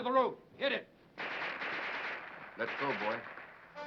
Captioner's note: guns firing